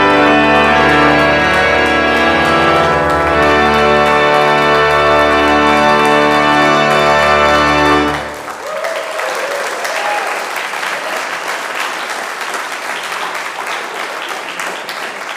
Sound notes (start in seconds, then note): 1.0 congregation clapping; 8.8 congression cheering